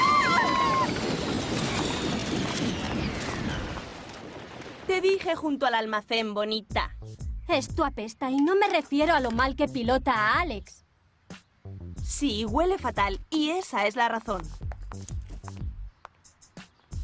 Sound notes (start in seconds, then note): 0.0 girls shriek; 7.7 nasal tone